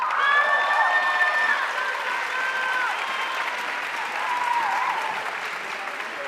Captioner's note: audience cheering and applauding